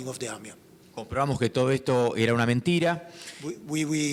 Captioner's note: speaking in foreign language